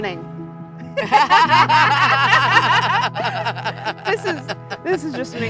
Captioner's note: both laughing